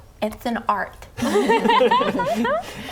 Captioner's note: laughing